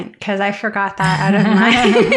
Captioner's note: laughter